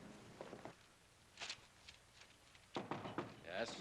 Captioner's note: knocking at door